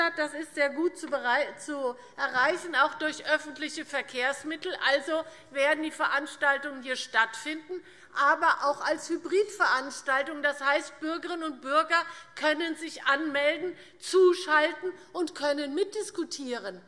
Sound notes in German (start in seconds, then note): none